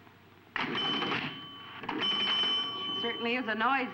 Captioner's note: pinball machine dinging